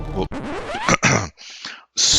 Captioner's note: clear throat